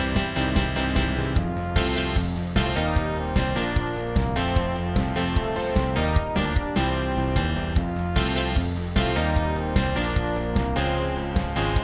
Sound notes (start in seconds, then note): none